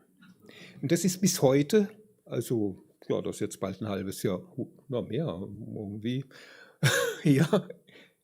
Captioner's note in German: gelächter